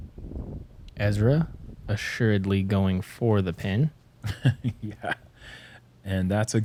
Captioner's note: chuckles